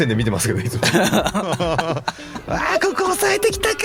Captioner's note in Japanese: 笑い